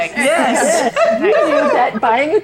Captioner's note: laughing